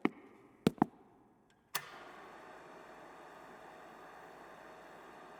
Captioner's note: footsteps thudding; projector whirring